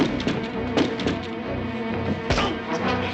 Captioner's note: grunting